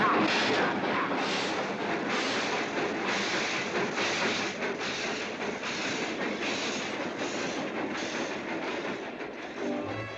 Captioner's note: train chugging past